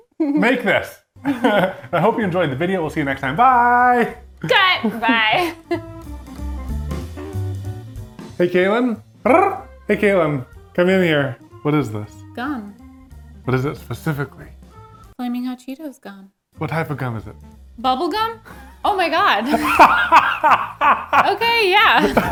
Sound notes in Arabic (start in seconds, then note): 6.3 موسيقى مبهجة; 9.2 إيفان يخرخر; 19.4 يضحك إيفان